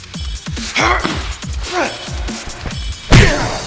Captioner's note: Jez grunting; foot pounding